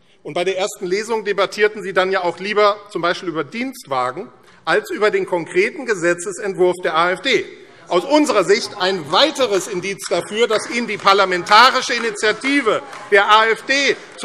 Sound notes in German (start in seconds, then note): 10.1 Beifall AfD